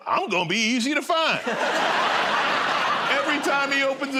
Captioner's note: laughter